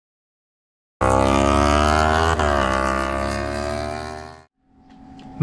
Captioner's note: motorbike engine sound